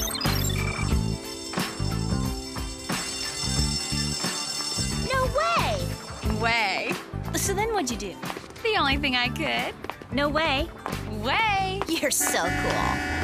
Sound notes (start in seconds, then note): 5.2 bell ringing